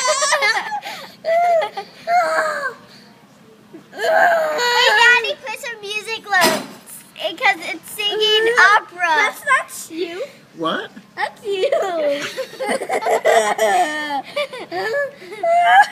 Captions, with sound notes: [more laughter...sighs...] HEY, DADDY. PUT SOME MUSIC NOTES BECAUSE IT'S SINGING OPERA. THAT'S NOT YOU. WHAT? THAT'S YOU. [more laughter]